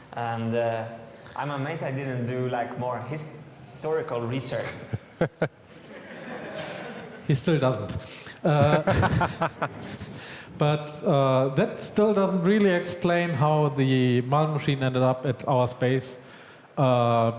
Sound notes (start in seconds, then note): 4.7 audience laughs; 8.5 laughs